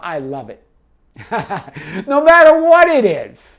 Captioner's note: laughs